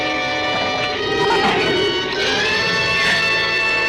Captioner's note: shrew chatters